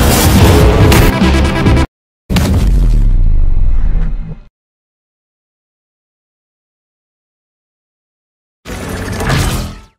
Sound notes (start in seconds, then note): 2.3 bass boosted stab sound effect